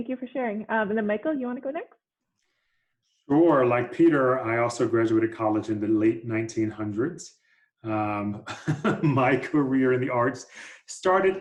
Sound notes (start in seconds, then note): 8.4 laughter